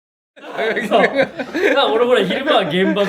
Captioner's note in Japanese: 笑い声